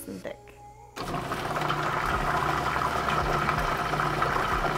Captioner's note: blender rumbling